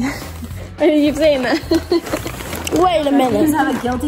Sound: laughs

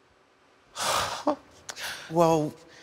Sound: sigh

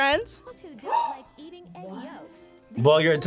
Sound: gasps

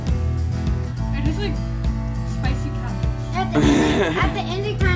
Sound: laughter

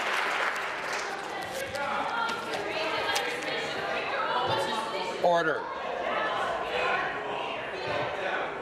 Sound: applause

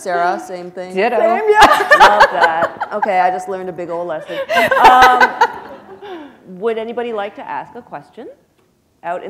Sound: laughter; laughter

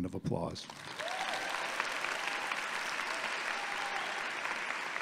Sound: audience applauding

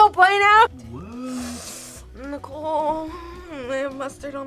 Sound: inhales sharply

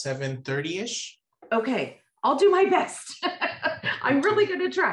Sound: laughs

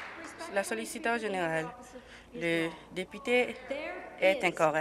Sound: applause

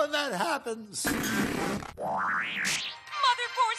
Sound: television sputters

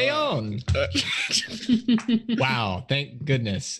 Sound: group laughs

